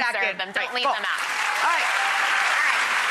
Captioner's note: applause